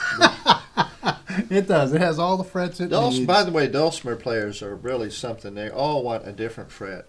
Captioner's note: laughter